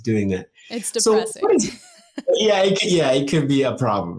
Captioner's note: chuckles